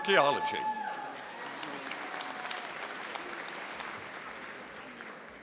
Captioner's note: audience applauding